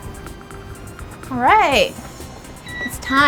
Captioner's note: oven beeps